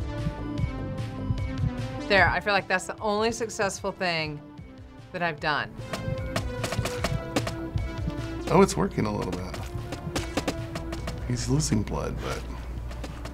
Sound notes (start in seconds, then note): 5.8 bones chipping away